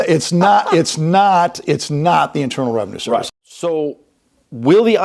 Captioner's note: laughs